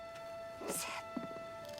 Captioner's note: whispering